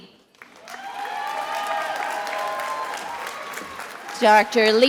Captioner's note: attendees applauding and cheering